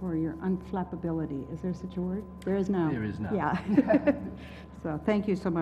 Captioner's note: laugh